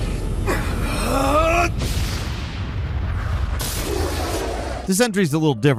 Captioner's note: character grunting